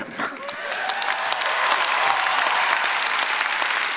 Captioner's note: chuckles; audience applauds